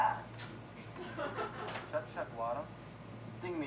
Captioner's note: speaks in alien language; woman laughs; speaking in alien language